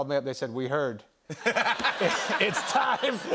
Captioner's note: laughter